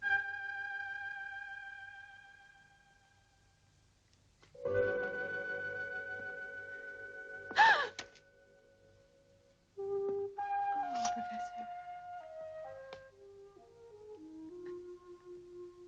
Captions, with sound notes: (light dramatic music) (Priscilla gasps) - Oh, Professor.